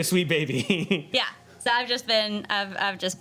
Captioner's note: laughing